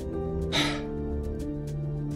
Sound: sighs

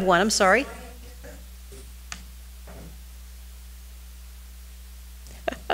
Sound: woman speaking distantly

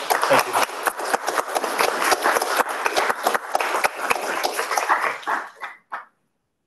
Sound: audience clapping

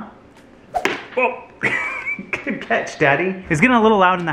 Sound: laughs

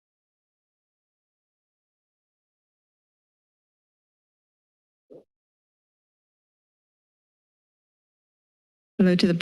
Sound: silence

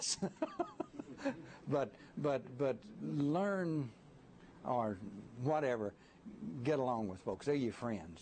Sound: laughter

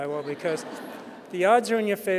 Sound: audience laughing

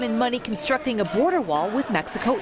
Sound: chanting

